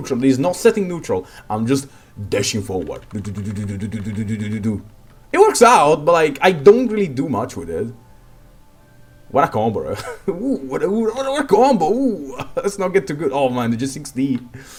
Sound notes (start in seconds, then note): 2.2 dududududududududududu